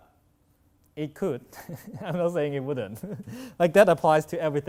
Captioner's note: sighs